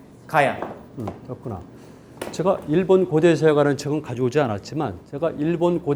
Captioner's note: speaking in Korean